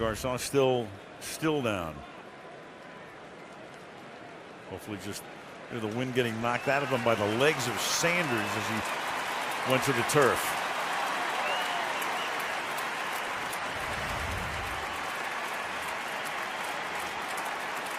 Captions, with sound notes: And Garcon still down. Hopefully, just the wind getting knocked out of him by the legs of Sanders as he went to the turf. [cheering, applause]